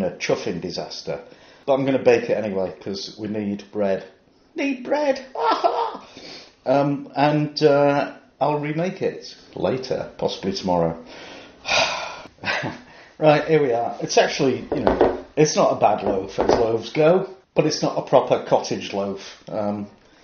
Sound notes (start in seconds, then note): 5.3 corny laugh; 11.6 heartfelt sigh